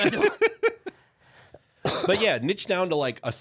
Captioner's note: laughing